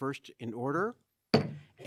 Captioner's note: gavel bangs